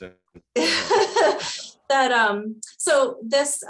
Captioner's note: laughs